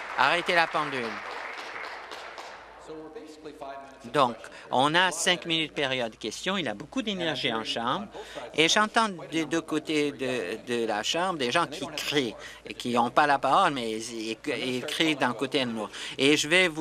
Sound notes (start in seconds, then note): 3.3 applause